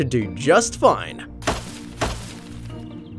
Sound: hammer thudding; upbeat calm music

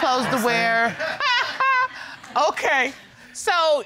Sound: judge laughs; audience laughing

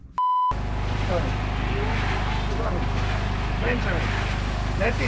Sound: tone dings; machine whirs

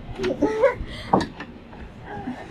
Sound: hallway chatter

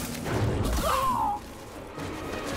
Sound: cries out

